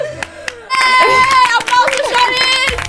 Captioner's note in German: Applaus, Jubel